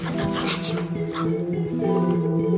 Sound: whispering

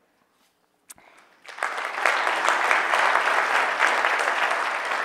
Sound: audience applause

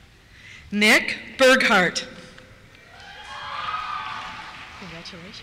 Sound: cheers

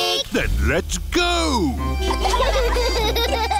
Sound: giggling

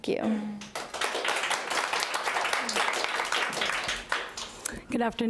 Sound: audience applauding

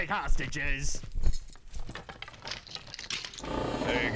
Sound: key ring jangle; door unlocks and creaks open

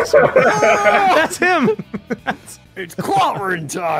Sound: laughter; laughs; imitates yell

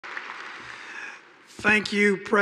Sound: audience applauding

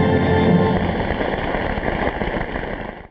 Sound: audience applause

